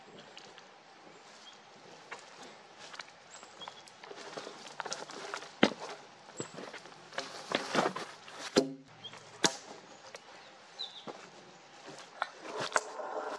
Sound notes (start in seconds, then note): 2.7 footsteps, wood cracking, log falling on other logs